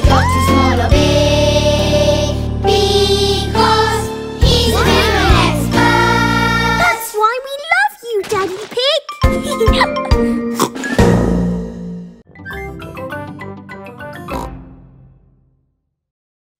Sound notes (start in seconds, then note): 9.2 laughing; 10.5 snorts; 14.3 snort